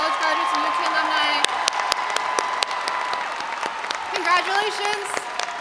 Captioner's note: audience applauding and cheering